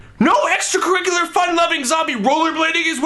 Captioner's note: none